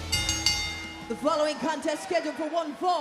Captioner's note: bell rings